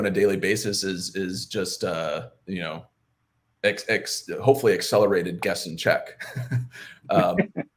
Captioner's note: chuckles